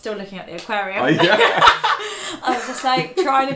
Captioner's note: laughing